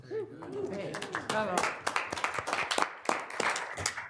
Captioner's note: applause